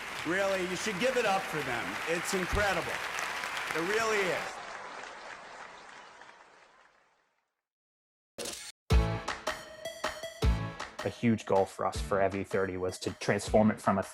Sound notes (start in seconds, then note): 4.7 audience applauding; 8.9 upbeat music